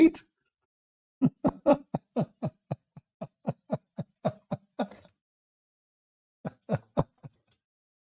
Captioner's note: Ketawa